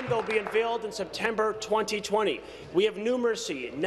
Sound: applause

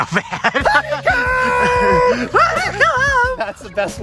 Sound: shouting

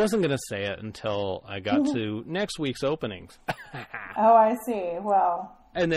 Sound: DJ laughs

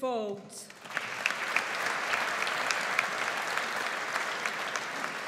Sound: audience applauds

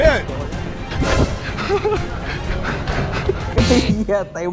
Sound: gasping

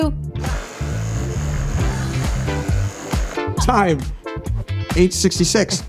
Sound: sawing

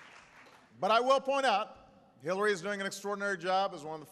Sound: applause

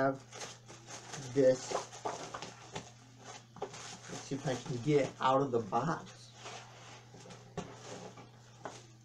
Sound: rustling of tissue paper

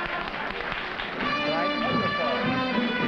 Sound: trumpet fanfare; applause

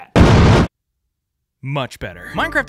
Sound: explosion

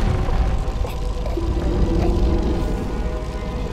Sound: gasping and choking

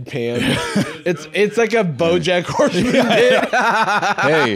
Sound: laughs

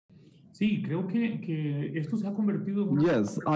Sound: speaking in foreign language

